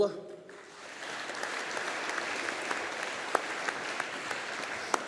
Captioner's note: audience applauding